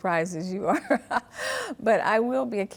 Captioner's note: chuckles